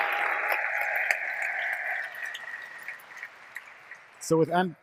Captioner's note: applause